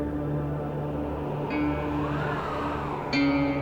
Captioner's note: winds rise